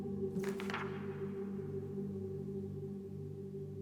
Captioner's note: pages flipping